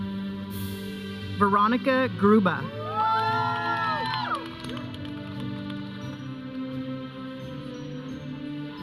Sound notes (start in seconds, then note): 2.8 audience cheering; 4.7 processional music